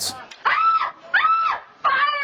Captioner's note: screams